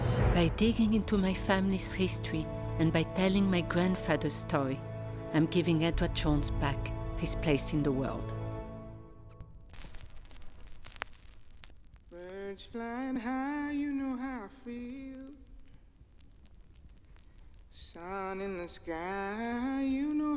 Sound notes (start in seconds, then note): 9.6 record static